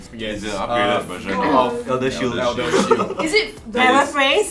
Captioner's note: mumbling